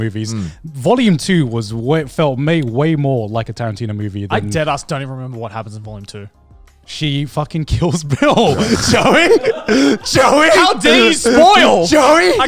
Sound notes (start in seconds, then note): 8.0 everyone laughs